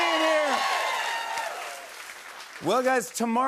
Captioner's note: cheers and applause